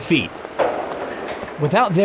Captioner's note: metallic clanking